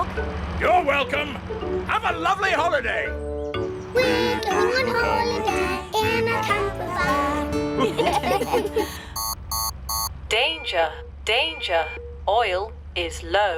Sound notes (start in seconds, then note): 7.7 laughter; 8.9 beeping